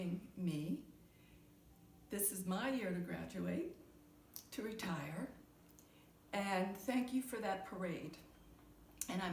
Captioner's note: none